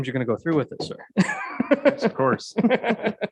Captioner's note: laughs